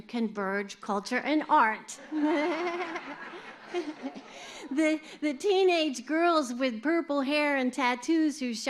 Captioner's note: laughter